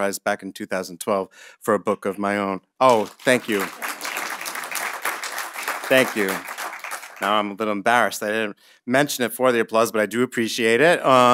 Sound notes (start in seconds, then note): 2.8 audience applauding